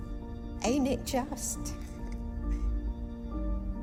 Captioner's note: none